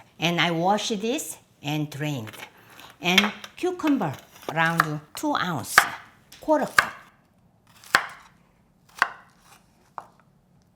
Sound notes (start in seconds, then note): 7.7 knife chopping